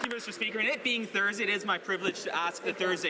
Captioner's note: some Applause